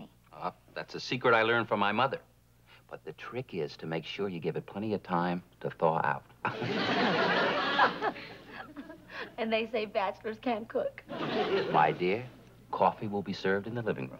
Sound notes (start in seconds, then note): 6.5 laughing